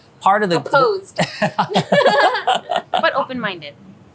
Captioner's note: both laughing